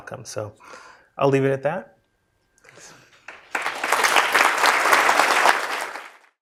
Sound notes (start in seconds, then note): 3.2 applause